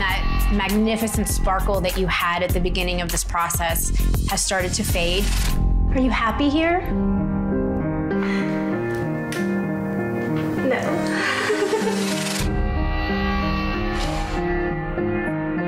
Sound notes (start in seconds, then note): 8.9 somber music; 11.0 chuckles